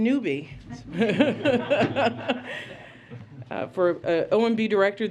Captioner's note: laughter